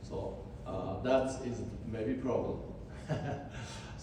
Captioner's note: laughs